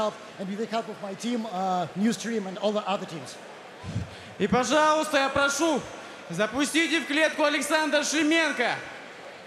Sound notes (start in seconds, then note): 3.6 foreign